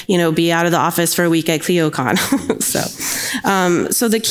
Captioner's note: chuckles